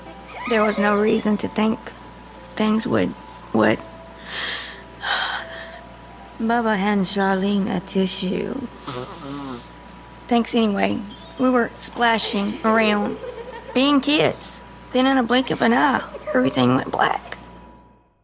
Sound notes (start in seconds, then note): 4.2 Charlene takes a deep breath; 8.8 Charlene blows her nose